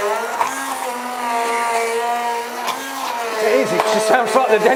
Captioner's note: blender whirs